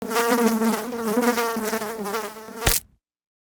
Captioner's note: fly buzzing; fly splatting